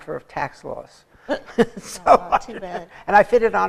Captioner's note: laughter